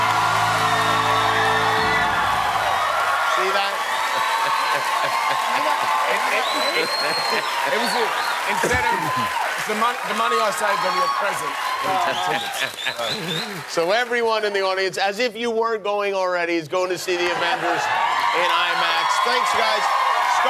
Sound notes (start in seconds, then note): 6.0 laughing